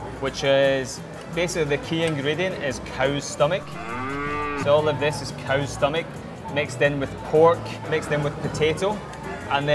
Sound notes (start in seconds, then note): 3.6 cow moos